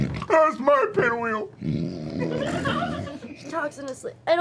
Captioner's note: snorts